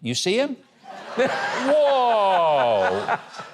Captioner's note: audience laughing